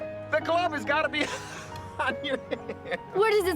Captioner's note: laughs